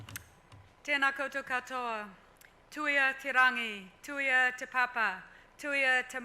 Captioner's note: speaks foreign language